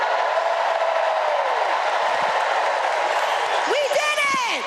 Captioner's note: applause